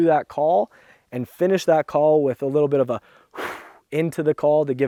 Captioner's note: exhale noise